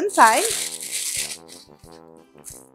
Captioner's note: paper rustling